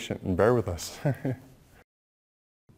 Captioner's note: laughter